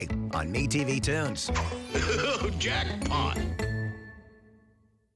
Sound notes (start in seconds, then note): 2.1 Foghorn Leghorn laughs